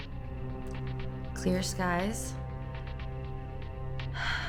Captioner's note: sighs